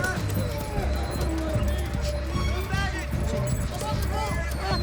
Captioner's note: dogs whining